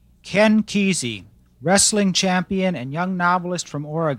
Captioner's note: voiceover